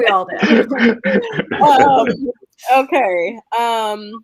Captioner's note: group laughing